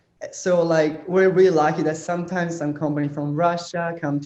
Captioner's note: none